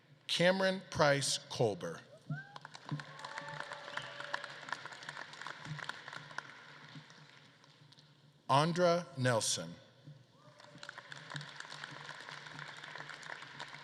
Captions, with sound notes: Cameron Price Kolber. (audience claps and cheers) Andra Nelson. (audience claps)